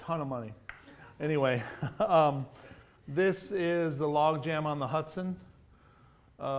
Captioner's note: laughs